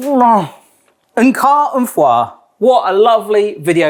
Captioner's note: speaking foreign language